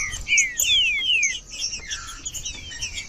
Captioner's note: trinca ferro cantando